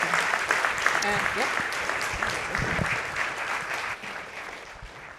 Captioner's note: audience clapping